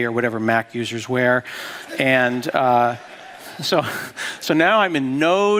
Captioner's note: laughter